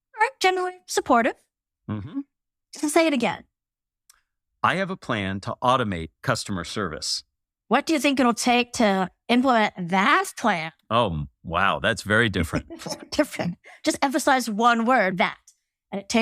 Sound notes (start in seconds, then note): 12.1 laugh